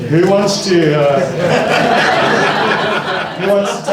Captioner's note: laughter